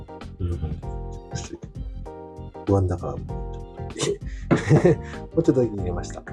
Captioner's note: laughs